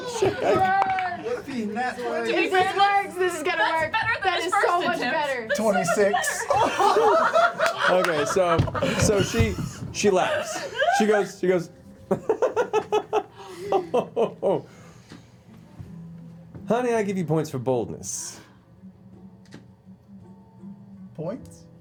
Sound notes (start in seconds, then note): 7.0 laughs; 8.3 laughter; 13.1 laughs